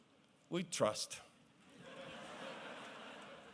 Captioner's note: laughter